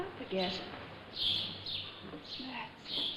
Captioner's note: birds chirping